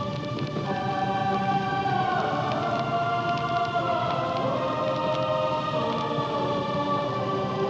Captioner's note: fire roars, ominous music turns dramatic